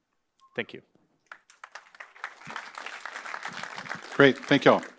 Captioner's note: applause